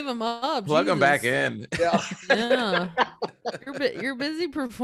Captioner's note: laughing